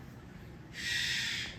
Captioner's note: cockatiel squawks